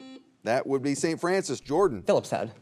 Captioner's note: buzzer beeps